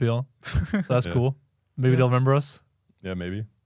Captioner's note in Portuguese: risos